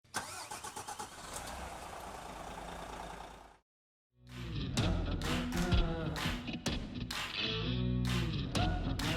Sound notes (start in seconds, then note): 0.1 car engine starting; 4.3 soft rock music